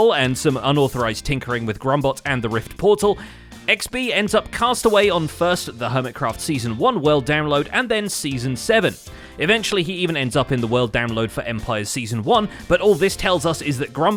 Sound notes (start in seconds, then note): none